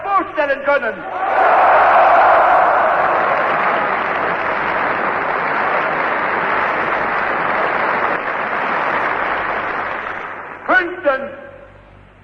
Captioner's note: applause